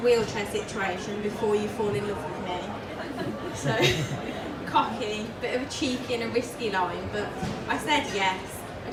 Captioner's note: audience laughs